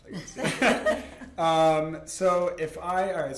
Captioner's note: laughter